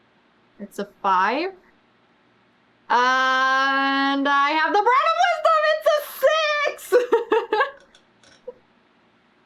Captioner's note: laughs